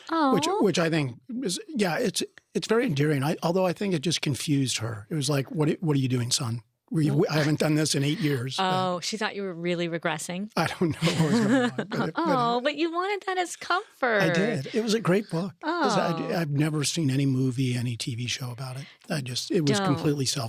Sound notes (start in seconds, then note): 10.8 laughs